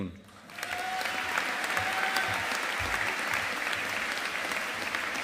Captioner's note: audience applauding